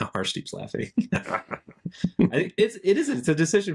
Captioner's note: laughing